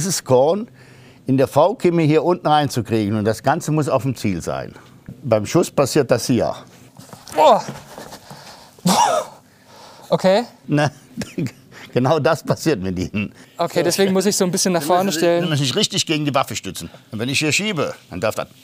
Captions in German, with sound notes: dieses Korn in der V-Kimme hier unten reinzukriegen. Und das Ganze muss auf dem Ziel sein. Beim Schuss passiert das hier. - Oh! Puh ... Okay. (lacht:) Genau das passiert mit Ihnen. Deshalb muss ich mich so ein bisschen nach vorne stellen? Sie müssen sich richtig gegen die Waffe stützen.